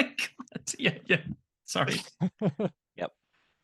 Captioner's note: laughs